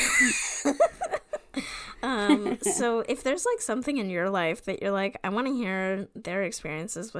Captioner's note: laughs